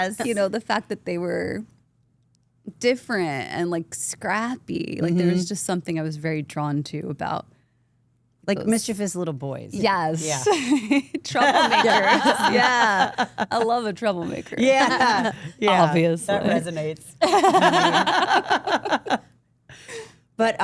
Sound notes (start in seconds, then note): 11.4 Steph laughs; 17.2 AJ and Steph laugh